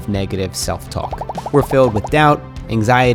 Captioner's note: text popping